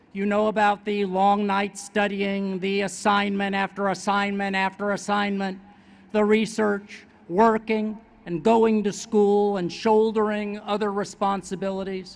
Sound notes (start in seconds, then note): none